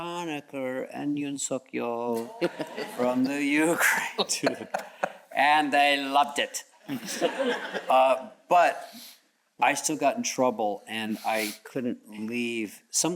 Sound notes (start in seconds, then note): 7.3 all chuckles